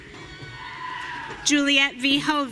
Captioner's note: audience cheering